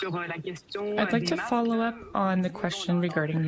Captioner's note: speaking french